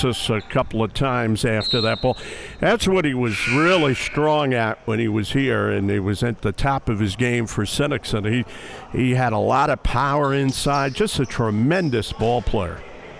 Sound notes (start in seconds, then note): 3.2 whistle blows; 3.3 buzzer dings loudly